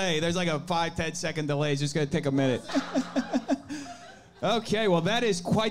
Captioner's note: laughs